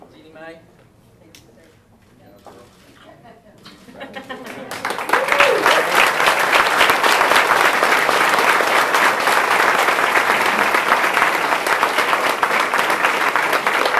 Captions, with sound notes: - Geanie Mae. - Thank you, sir. Thank you. (lip smacking) (audience and speakers applauding)